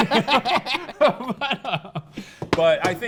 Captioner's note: laugh